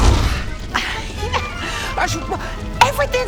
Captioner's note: nervous laugh